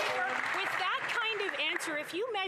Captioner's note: applause